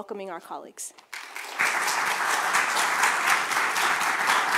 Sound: applause

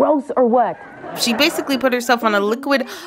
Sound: laughter

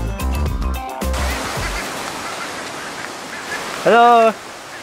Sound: water gushing

